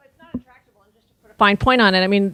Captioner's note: speaking without microphone